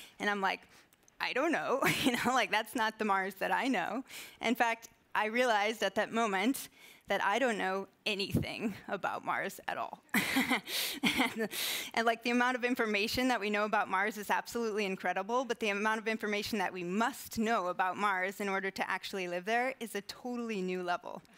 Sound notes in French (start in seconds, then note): 10.1 rires